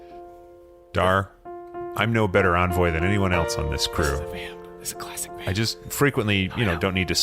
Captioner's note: chuckles